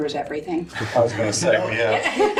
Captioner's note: laughter